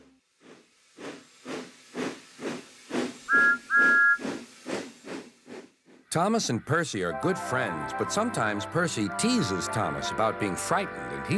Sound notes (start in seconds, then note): 0.3 chugging; 3.3 toot toot